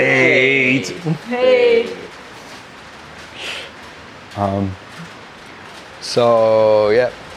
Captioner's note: rain falling